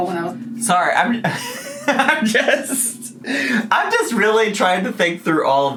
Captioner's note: laughs